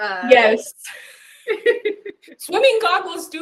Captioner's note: laughs